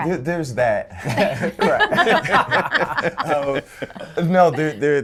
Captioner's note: people laughing